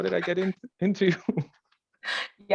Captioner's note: chuckling